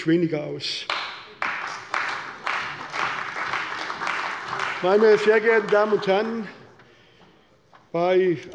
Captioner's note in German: Beifall bei der CDU